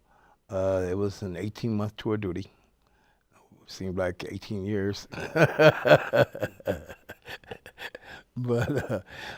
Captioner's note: laughs